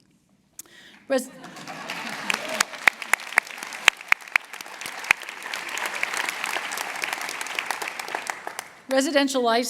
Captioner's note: applause